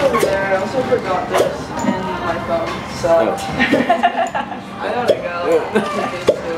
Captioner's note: laughing